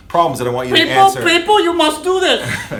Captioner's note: interupts in strange accent